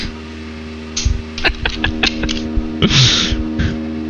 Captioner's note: laughs